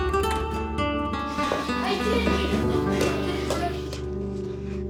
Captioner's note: indistinct chatter